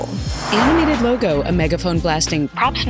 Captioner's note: whoosh